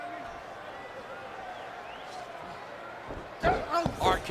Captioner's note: crowd shouting